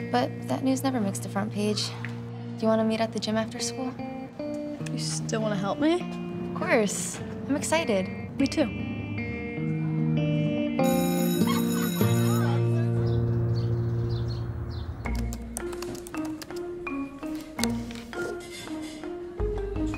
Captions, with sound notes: But that news never makes the front page. Do you want to meet at the gym after school? - You still want to help me? - Of course. I'm excited. - Me too. (school bell rings) (light music)